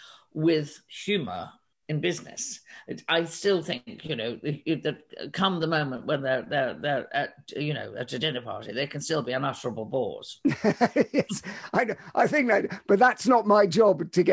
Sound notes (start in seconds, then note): 10.5 laughs